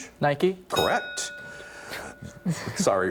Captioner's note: ding